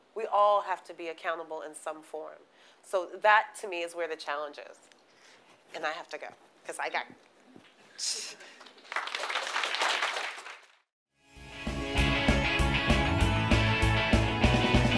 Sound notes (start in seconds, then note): 8.5 applause; 11.4 upbeat rock music